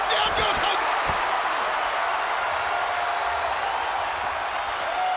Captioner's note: crowd cheering